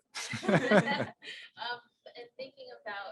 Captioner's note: laughter